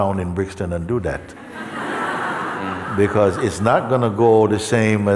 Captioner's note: laughter